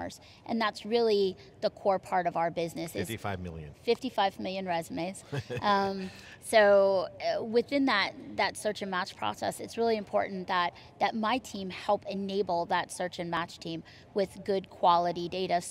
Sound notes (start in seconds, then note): 5.2 chuckling